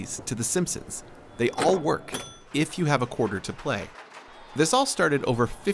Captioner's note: electronic beeping